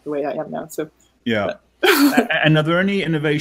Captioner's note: laughing